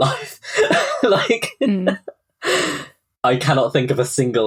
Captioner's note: laughing